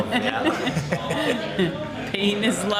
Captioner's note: laughter